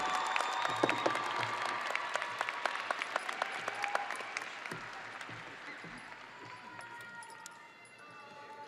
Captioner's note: audience cheering and applauding